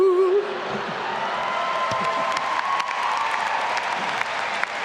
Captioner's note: all laughing and cheering